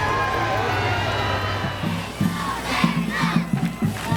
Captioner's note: siren